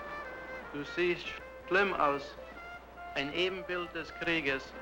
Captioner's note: speaking in German